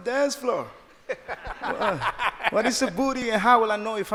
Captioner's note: laughing